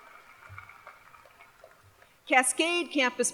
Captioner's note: applause